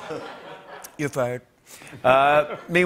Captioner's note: Imitates Trump; normal voice